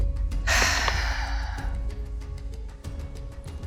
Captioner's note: Mayanna sighs